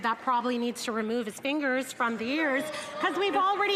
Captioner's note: some Applause